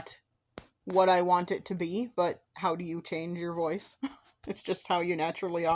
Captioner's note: soft chuckle